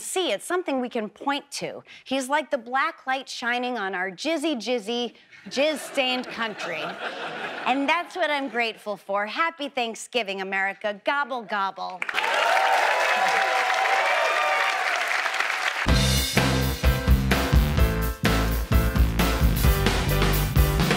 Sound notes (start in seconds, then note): 12.0 audience cheers; 15.8 upbeat music